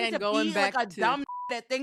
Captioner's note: beep